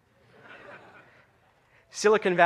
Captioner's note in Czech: smích